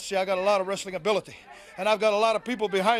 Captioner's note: crowd chatter